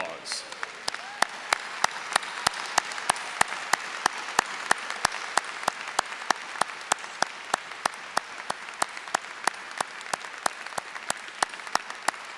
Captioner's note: applause